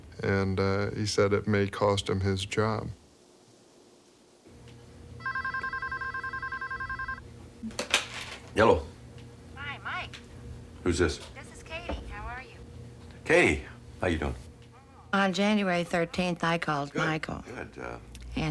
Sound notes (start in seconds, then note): 5.2 phone rings; 9.5 on phone